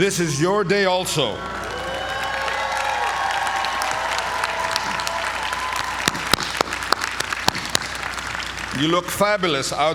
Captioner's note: applause